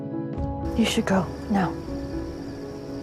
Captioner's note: voiceover